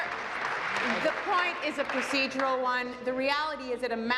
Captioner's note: applause